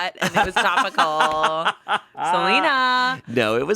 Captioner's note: everyone laughs